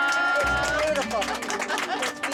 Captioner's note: clapping